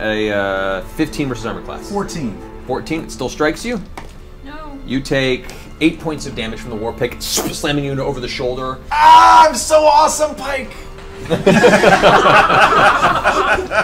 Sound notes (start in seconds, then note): 8.8 yells out; 11.2 all laugh